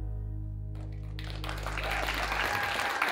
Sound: applause

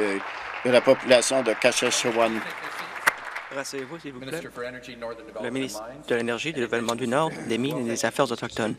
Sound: applause

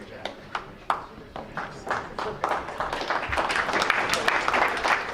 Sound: crowd applauds

